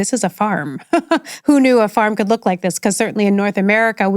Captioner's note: chuckles